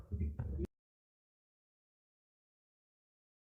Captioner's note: silence